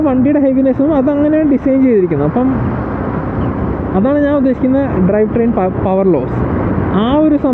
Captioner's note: engine